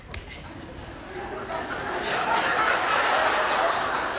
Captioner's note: laughter